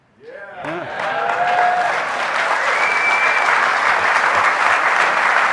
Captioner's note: audience cheering